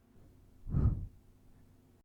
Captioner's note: blowing in left ear